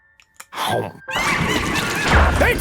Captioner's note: customer chomps; imp laughing